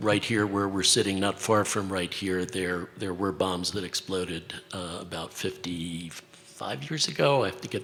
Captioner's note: hesitates